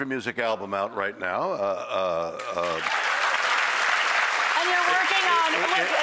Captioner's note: audience applauding